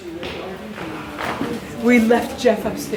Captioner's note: people chatting